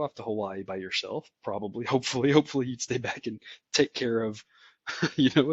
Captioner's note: laugh